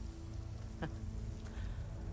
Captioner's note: laugh